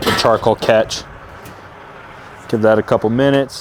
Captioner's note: car engine roaring